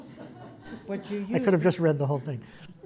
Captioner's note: laugh